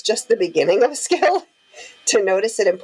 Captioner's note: laughing warmly